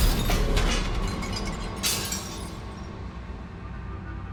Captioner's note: slow dramatic music continues; glass shatters